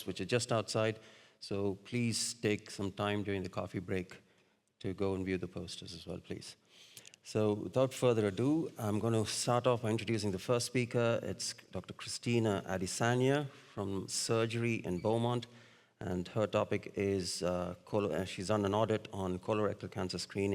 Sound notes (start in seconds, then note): none